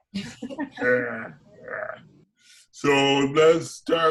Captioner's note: laugh